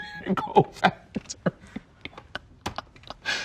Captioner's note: laughs